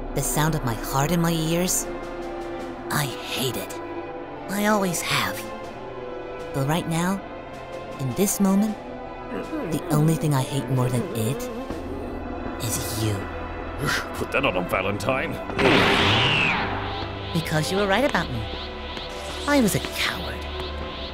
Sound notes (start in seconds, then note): 9.3 Cell growls as Gohan speaks